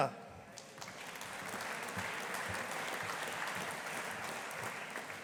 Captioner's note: audience applauding